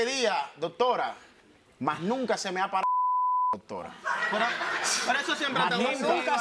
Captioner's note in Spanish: Bip; Risas